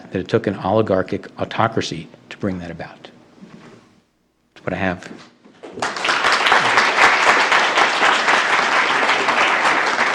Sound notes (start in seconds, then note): 5.7 applause